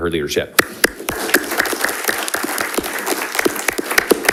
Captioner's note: everyone applauding